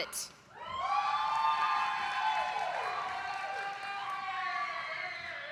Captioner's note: audience applauding